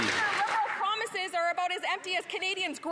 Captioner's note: applause